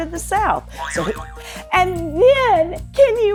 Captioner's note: buzzer boing